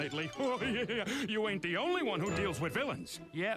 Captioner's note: laughs